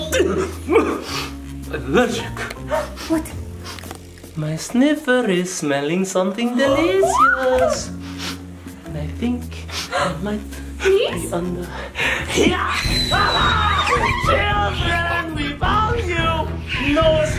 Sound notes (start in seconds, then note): 0.5 spluttering; 2.2 Dracula sniffing; 2.2 gasps; 6.7 screams delightfully; 11.6 gasps; 12.7 child screaming